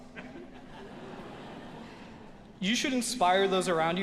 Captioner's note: audience laughing